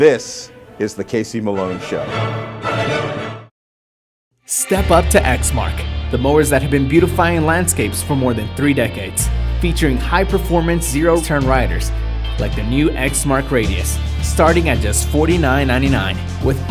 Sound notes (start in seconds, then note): 4.7 voiceover